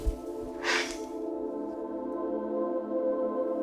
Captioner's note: Ally sighs